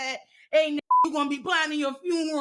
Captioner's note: beep